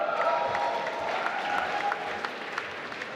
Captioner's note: applause